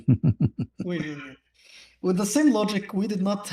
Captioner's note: laughter